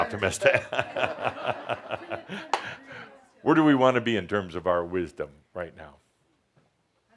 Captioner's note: laughter